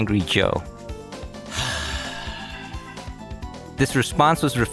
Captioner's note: deep sigh